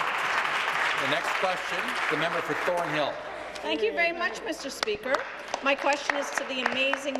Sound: applause

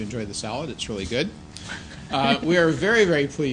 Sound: laughter

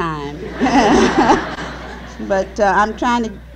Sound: laughter

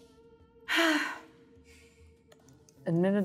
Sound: sighs

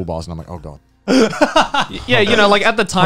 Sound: chuckling

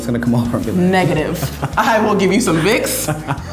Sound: laughing

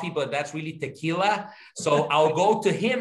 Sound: laugh

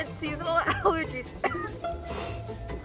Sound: coughing and sniffling

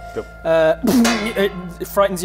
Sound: clang!

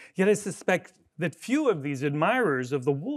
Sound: none

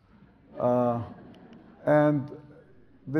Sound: audience laughs

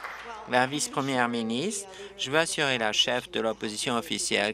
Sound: applause

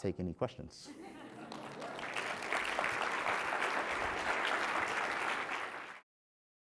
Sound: applause

